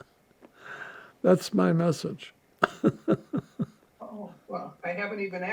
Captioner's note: laughing